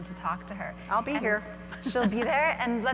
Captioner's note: laughs